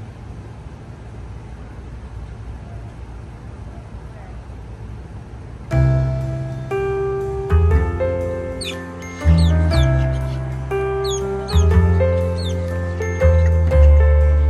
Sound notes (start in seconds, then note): 5.7 mellow piano music; 9.2 birds chirping